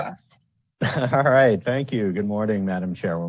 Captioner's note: laughs